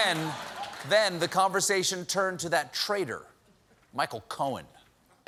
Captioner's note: laughter